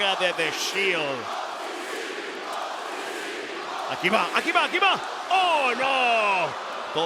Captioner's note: applause